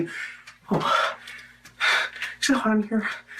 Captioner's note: breathes heavily